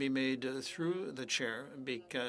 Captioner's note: speaking French